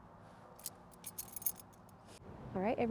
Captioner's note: keys jingle